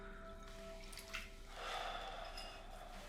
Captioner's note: sigh